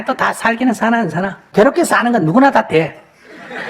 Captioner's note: audience laughter